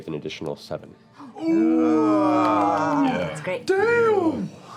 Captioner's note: cheering